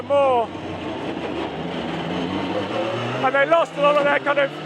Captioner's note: engine rasping